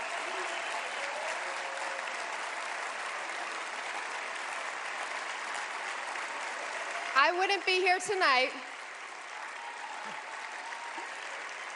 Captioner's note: cheers and applause